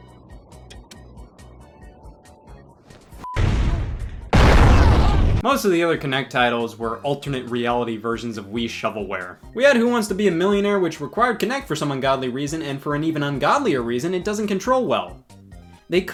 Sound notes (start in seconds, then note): 3.2 beep; 3.3 bomb explosion